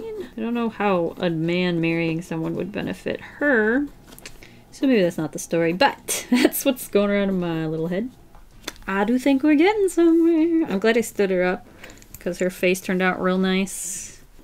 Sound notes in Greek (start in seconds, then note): 6.2 Γέλια